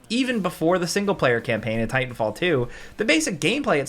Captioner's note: none